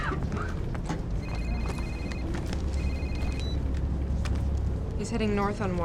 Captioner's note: phone rings